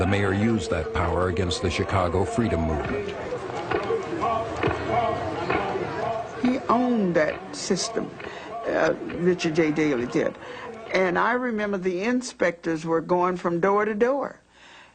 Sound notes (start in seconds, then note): 6.2 female voice